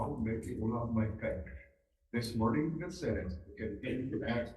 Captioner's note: loudspeaker